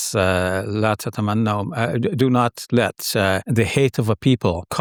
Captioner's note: speaking in foreign language